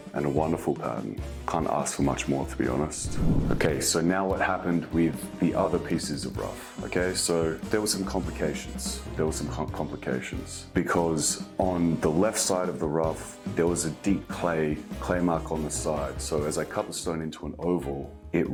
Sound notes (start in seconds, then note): 2.9 image whooshes